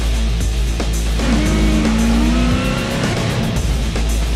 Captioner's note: engine revs